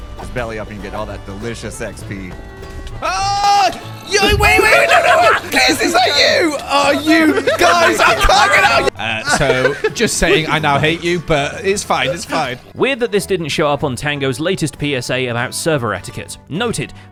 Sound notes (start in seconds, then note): 4.5 cackles; 4.6 yelling